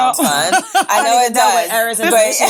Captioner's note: laughs